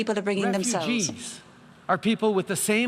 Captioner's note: speaking English